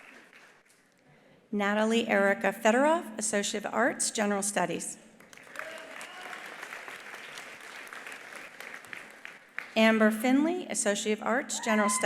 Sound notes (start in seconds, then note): 5.2 attendees applauding; 5.6 attendee cheering